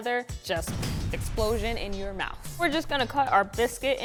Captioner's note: bomb explodes